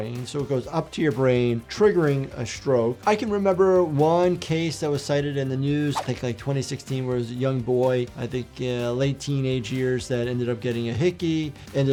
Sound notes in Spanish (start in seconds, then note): none